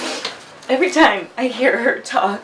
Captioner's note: nose sniffling